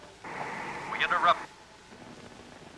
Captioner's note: man on Radio